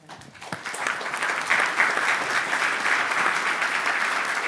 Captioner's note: audience applauds